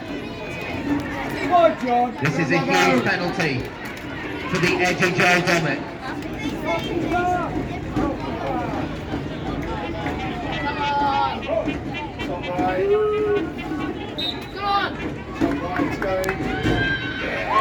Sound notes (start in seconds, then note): 11.4 trumpet builds up; 14.1 whistle blows; 14.5 trumpet builds up